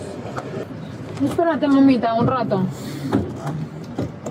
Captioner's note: speaking in a foreign language